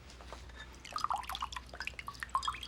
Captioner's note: water dripping